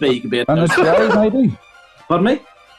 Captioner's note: laughing